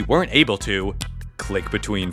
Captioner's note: snaps fingers